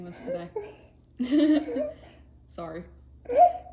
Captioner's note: laughing